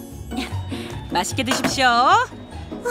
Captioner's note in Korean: 달칵, 그릇 내려놓는 소리